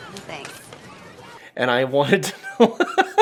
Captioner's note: laughs